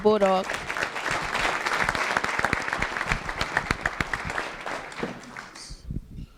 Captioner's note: applause